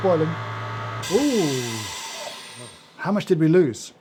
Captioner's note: vacuum chamber hisses